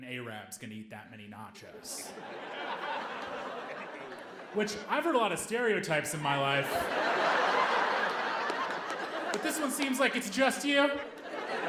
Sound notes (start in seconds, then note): 6.5 audience laughing